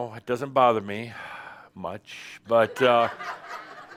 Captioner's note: more laughter